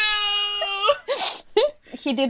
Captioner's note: laughs